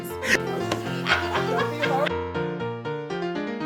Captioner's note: laughing